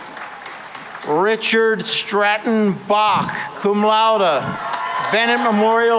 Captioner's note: cheering and applause; cheering and applause